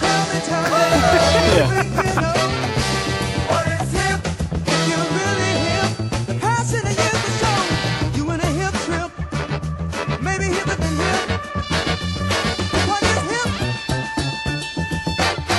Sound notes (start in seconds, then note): 0.6 laughing